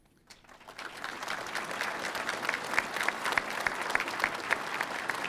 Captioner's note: audience applauding